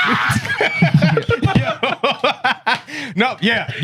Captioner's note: laughter